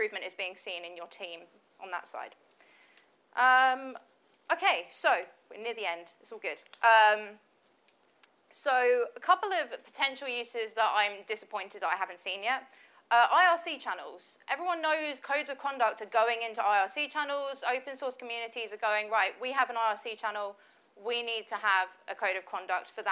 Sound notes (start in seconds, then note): none